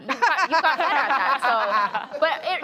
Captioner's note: laughter